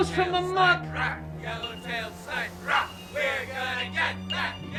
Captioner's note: outside Men chanting